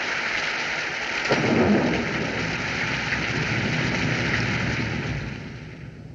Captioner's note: thunder Rumbling